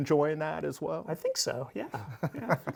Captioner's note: laughs